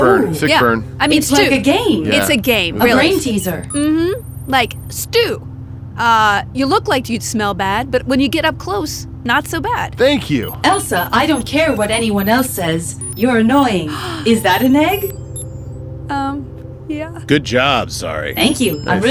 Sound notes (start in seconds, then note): 15.4 sighs